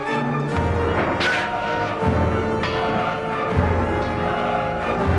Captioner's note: swords clanging